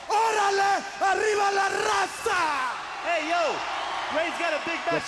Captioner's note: Konnan speaks foreign language